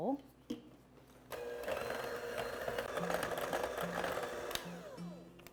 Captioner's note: blender whirring